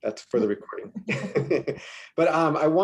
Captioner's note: laughs